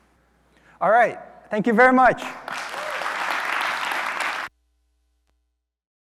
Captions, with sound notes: - All right, thank you very much. (audience applauding)